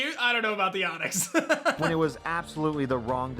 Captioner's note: laughs